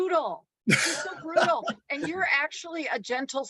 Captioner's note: laughs